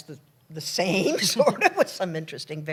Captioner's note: laughter